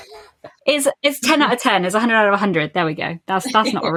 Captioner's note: laughs